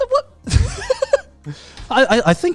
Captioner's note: laughs